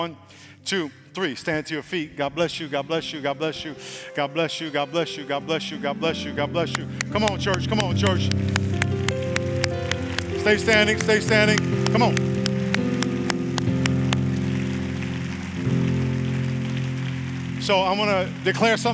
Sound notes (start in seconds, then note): 12.4 applause